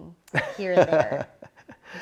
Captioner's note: laughs